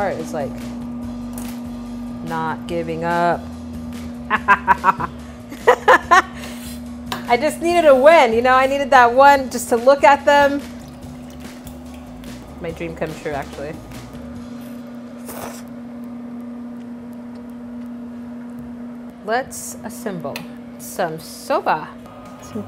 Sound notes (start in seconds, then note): 4.6 laughs; 15.2 slurping of noodles